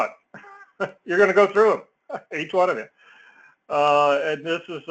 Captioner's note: laugh